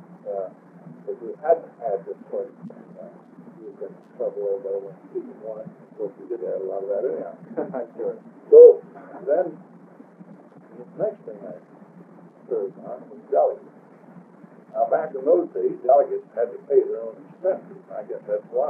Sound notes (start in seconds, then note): 6.0 laughs